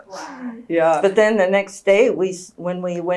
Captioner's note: laughs